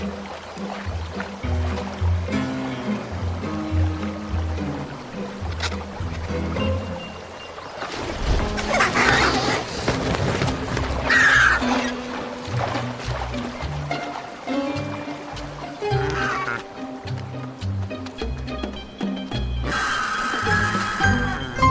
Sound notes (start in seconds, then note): 0.0 playful music; 9.1 vultures squawking; 15.1 playful music